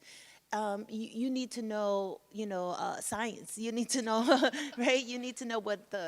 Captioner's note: chuckles